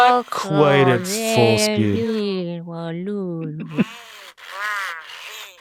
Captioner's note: speaks gibberish; Coco babbling